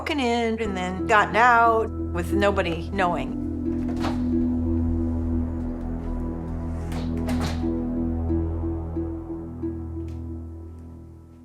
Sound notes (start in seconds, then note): 4.0 door clicks